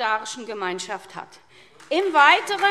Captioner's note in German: Beifall SPD – Zuruf AfD